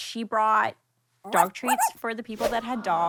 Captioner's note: dog toy squeaks